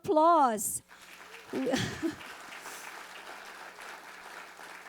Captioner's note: audience applauding